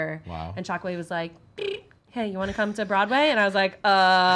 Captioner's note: imitates ringing